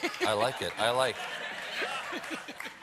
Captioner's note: laughter